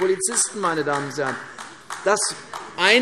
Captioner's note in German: Beifall AfD